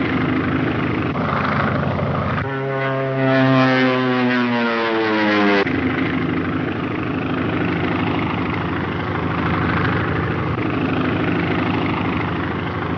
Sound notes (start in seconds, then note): 2.7 engine whining; 7.1 engine roaring